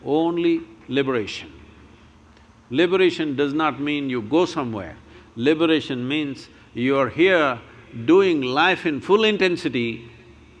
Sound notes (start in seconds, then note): none